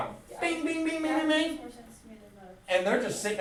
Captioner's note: student speaks softly